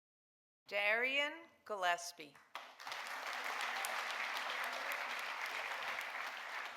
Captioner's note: audience applauding